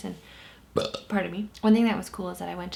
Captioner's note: belches